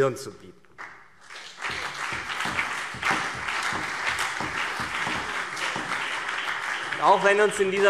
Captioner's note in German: Beifall CDU und BÜNDNIS 90/DIE GRÜNEN